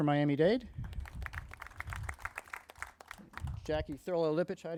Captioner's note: crowd applauding